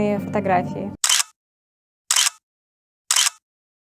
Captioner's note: click